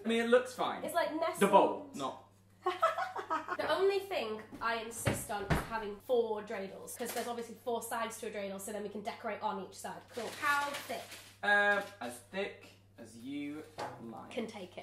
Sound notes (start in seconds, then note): 2.6 laughs